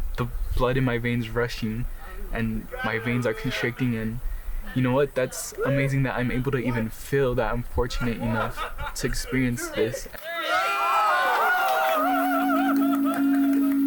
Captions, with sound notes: "the blood in my veins rushing "and my veins are constricting. "And you know what, "that's amazing that I'm able to even feel that. "I'm fortunate enough to experience this." (group cheering)